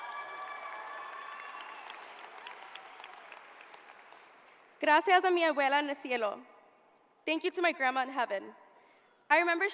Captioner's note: cheering